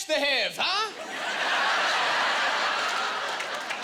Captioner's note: laughing